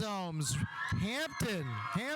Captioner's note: audience cheering; audience applauding